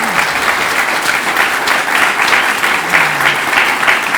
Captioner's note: audience applauding